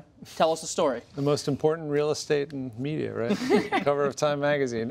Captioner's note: laughter